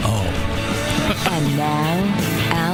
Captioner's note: laughter